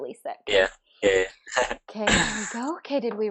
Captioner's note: laughs